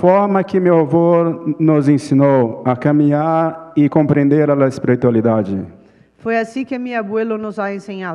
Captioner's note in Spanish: Ponente habla en portugués